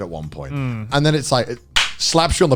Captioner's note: claps